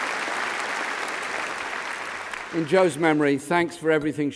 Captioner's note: applause